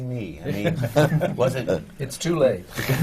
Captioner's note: laughter